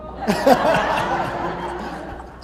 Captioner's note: laughter